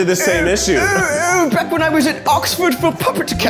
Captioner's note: mimics